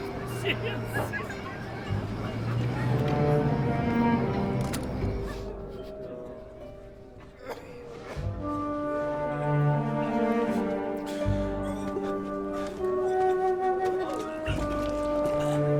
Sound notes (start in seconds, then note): 0.0 roar of chatter; 7.2 coughing